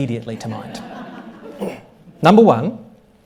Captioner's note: audience laughing